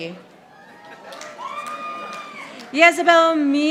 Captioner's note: audience applauding